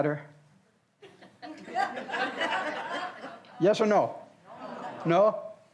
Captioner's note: audience laughs